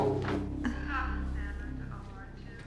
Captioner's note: sighs